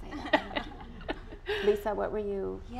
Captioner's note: chuckling